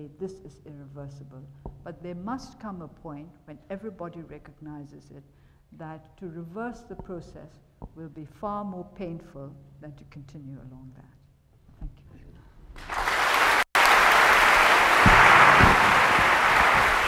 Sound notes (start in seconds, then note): 12.8 attendees applauding